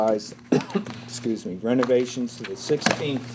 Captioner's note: coughs